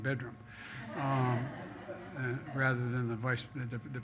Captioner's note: laughter